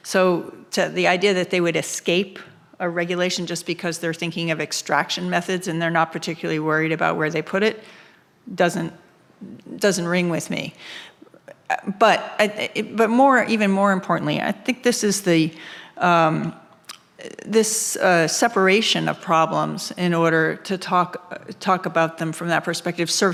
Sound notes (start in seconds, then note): none